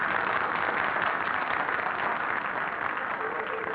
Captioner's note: people applauding